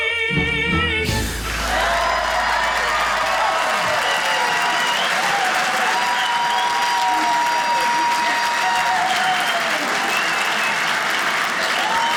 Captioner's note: audience cheering